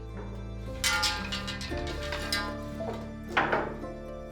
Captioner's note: metal clanking